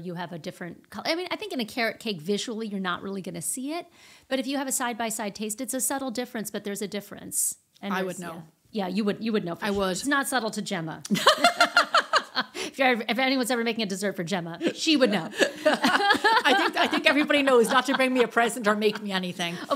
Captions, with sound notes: You have a different color. I mean, I think in a carrot cake visually, you're not really gonna see it. But if you have a side-by-side taste, it's a subtle difference, but there's a difference. I would know. Yeah, you would know. I would. It's not subtle to Gemma. (laughing) If anyone's ever making a dessert for Gemma, she would know. (laughing) I think everybody knows not to bring me a present or make me anything.